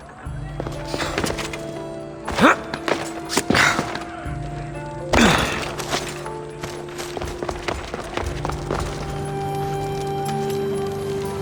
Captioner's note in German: räuspern